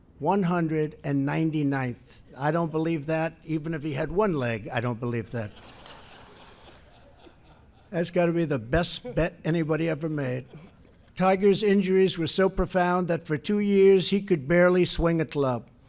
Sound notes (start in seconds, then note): 5.4 laughter